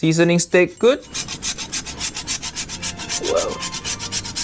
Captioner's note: salt and metal rustling